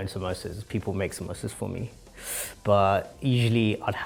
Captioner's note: inhales